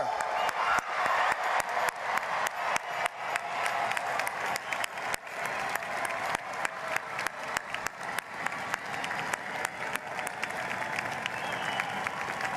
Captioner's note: applause